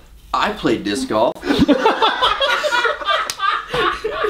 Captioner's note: laughs loudly